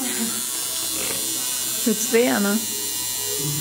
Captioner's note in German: lacht; tätowier geräusch